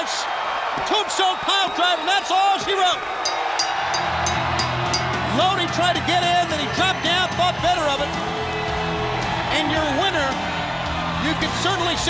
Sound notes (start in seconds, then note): 3.2 bell ringing